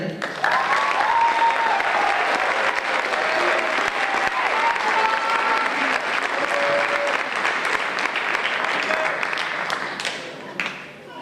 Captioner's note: applause